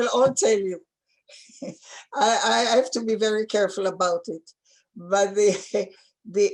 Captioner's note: chuckles